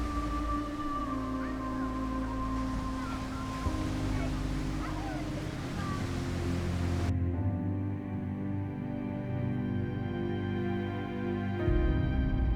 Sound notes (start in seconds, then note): 1.7 children chattering; 5.6 slow music continues